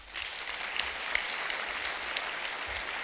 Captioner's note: clapping